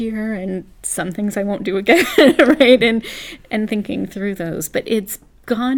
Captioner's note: laugh